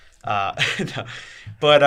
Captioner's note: laughs